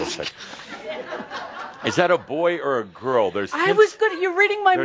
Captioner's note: laughter